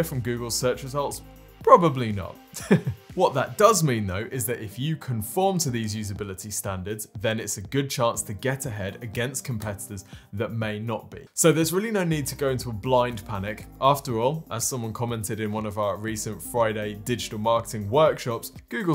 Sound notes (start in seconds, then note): 2.6 laughs